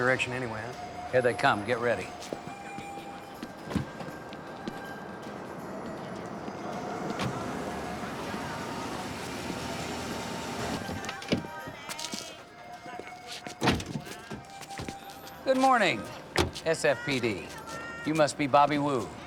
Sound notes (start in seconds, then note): 6.8 car door closes